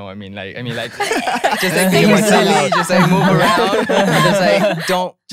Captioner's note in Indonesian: tertawa